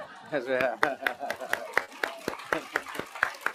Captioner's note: laughing; applause